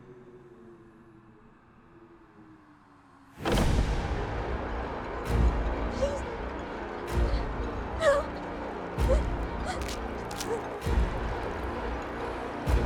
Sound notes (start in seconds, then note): 0.2 wind howling; 3.4 sinister music; 9.6 Alana gasping